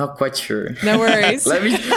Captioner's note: laughter